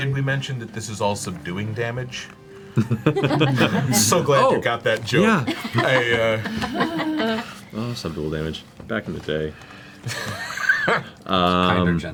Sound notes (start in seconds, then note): 2.7 laughs